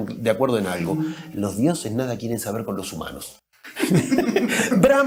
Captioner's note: laughter